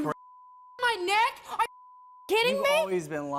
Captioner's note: beep